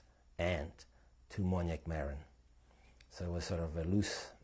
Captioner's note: non-english